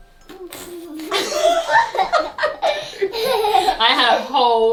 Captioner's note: laughs